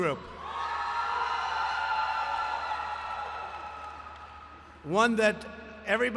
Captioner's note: applause